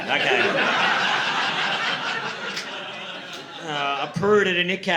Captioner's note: audience laughing